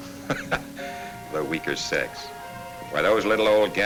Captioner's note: chuckles